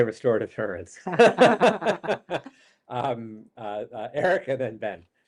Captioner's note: laughter